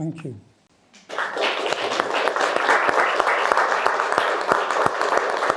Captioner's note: attendees applauding